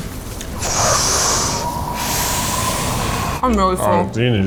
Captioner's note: wind whooshing; sucking in breath